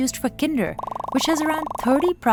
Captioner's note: products popping